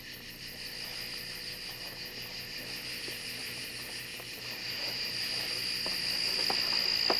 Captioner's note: crickets chirping